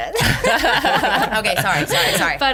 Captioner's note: laughs